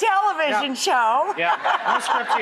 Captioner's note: audience laughs